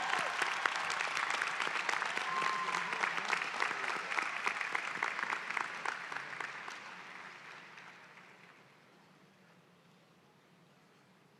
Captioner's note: applause